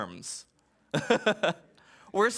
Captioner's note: laughs